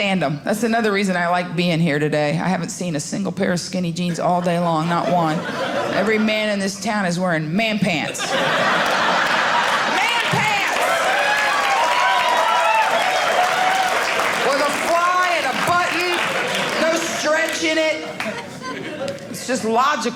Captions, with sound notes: That's another reason I like being here today. I haven't seen a single pair of skinny jeans all day long, not one. Every man in this town is wearing man pants. Man pants. (audience cheering) With a fly and a button, no stretch in it. It's just logical.